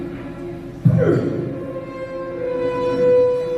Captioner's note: Indiana Jones grunts